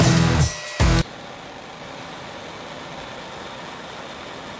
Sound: torch humming

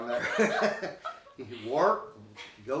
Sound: both laughing

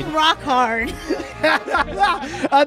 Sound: laughs

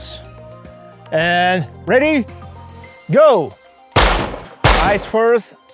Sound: gunfire popping

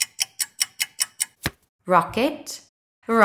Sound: the sound of a card being turned over can be heard

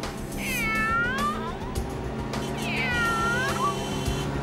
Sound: parrot squawks

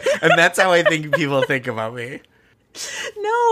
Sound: laughing

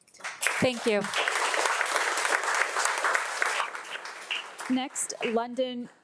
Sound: audience applauding

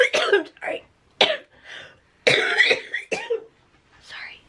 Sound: coughing; coughing

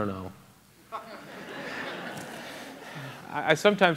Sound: laughter

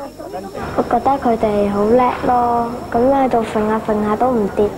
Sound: none

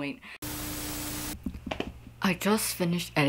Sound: Static

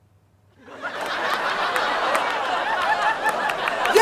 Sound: audience gasping; audience laughter

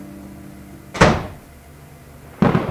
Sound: door slam; thunder

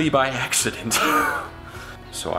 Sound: chuckles

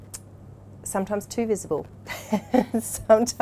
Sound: laughs

